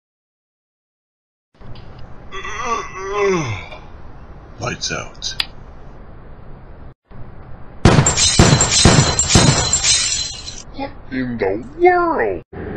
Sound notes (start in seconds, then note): 2.3 man yawns; 5.1 clicks; 7.8 gun blows, lights shattering